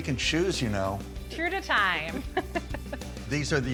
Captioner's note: laughs